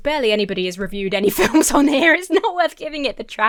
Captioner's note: laughs